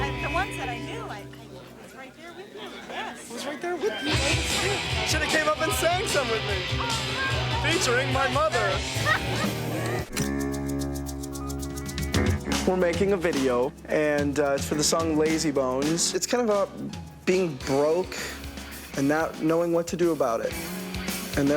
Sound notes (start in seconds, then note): 8.6 mother laughing; 10.3 intense electronic music